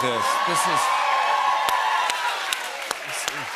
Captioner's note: cheers and applause